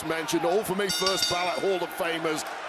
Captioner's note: bell rings